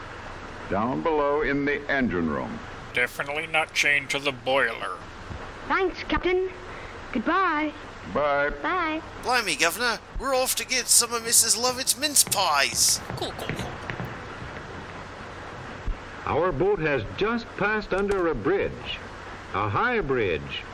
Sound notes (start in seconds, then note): 5.5 Roger sounds weirdly Cockney